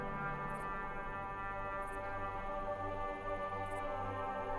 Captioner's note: insects buzzing